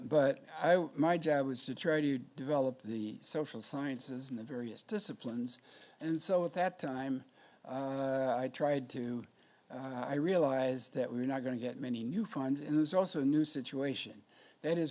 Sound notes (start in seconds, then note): none